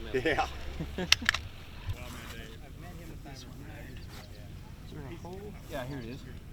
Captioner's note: fireworks setup sounds